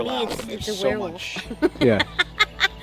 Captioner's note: laughs